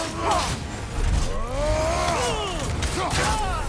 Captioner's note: none